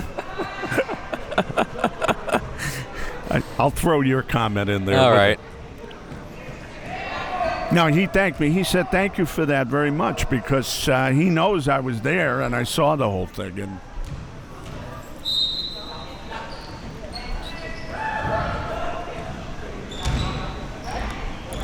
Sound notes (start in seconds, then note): 0.0 laughing; 14.9 athletes chattering; 15.2 whistle blowing